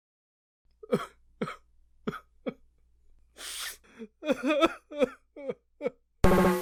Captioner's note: Civvie 11 sobs